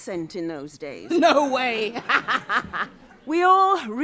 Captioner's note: laughs